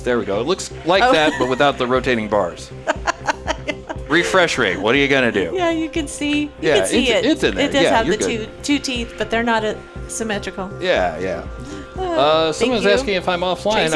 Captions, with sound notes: There we go, it looks like that, but without the rotating bars. (laughing) Refresh rate, what are you gonna do? Yeah, you can see it. Yeah, it's in there. It does have the two teeth, but they're not symmetrical. Yeah, yeah. Someone's asking if I'm offline,